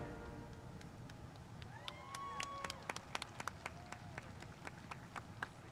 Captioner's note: spectators applauding